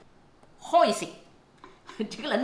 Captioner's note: Cantonese